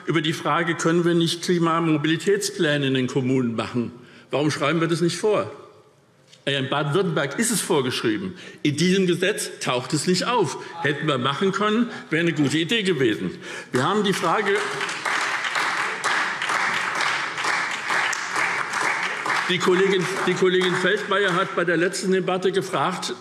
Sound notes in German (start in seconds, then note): 13.7 Beifall SPD